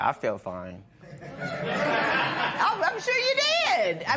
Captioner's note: laughter